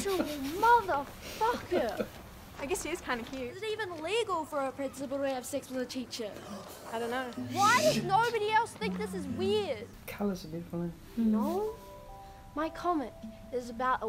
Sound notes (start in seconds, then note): 0.0 laughs; 6.3 gasps